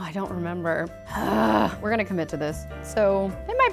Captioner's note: groans